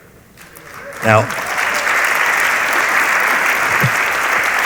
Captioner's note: audience applauds